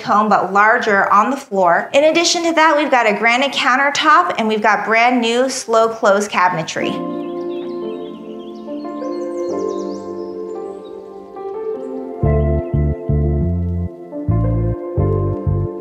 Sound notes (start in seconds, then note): 6.0 birds chirping; 6.8 relaxing music